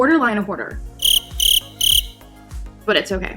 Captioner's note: crickets